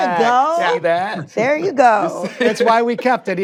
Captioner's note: chuckles